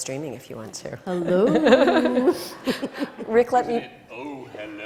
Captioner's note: laughs